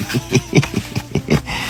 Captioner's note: laughter continues